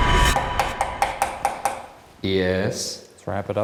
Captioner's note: rapping on wall